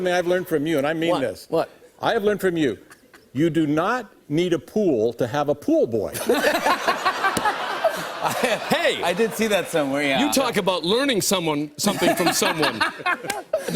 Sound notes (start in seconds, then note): 6.1 laughter